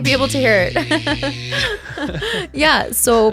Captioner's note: making whirling noises